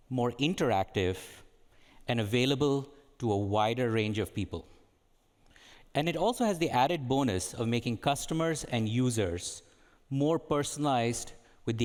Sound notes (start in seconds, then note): none